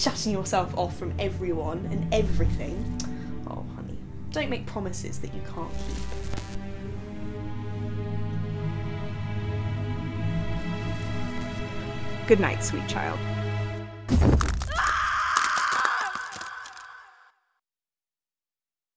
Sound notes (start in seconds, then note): 6.5 eerie music; 14.6 scream